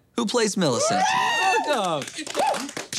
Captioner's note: cheering